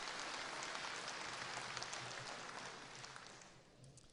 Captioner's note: applause